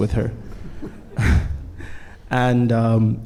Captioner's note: panelists chuckling